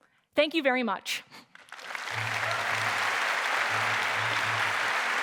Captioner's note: applause